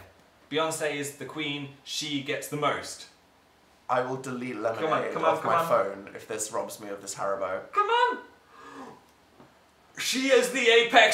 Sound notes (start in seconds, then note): 8.4 both gasp in shock